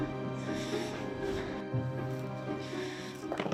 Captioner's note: breathes heavily